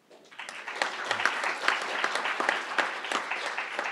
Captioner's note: crowd applauding